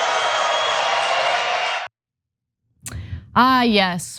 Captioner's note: applause